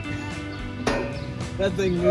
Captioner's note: ding